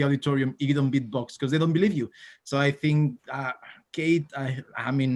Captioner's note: winces